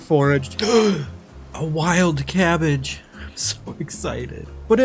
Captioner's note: gasps